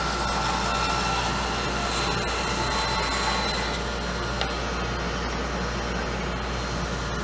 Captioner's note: sawing